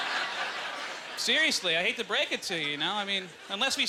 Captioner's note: audience laughter